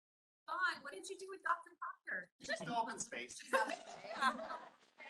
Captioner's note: chatter